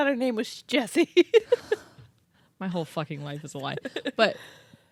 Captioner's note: laughs